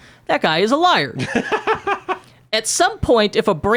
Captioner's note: laughs